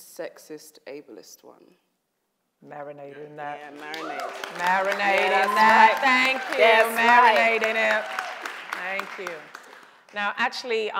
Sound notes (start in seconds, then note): 3.7 audience applauds